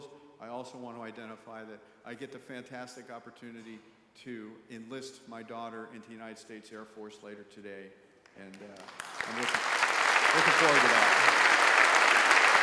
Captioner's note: applause